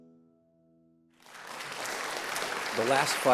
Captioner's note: audience applauds